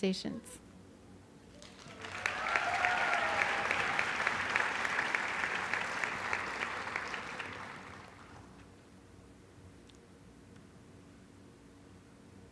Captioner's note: applause